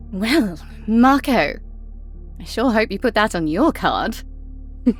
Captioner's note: chuckles